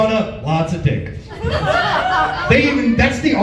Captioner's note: laughs